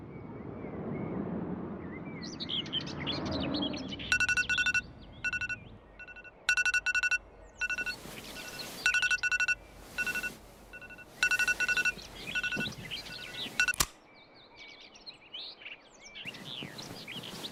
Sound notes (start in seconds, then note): 4.1 phone alarm